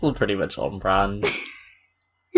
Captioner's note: laughs